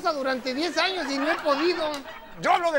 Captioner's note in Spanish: Risas